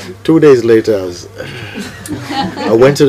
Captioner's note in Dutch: gelach